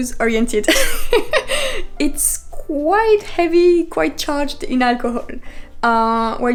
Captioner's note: laugh